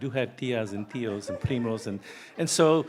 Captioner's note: speaking in foreign language